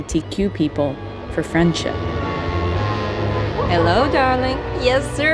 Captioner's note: soundbite of archived recording